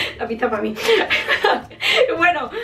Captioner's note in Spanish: risas